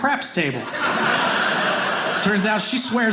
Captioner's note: audience laughing